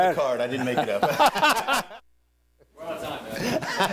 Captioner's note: laughing